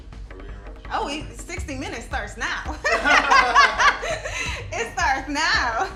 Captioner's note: all laughing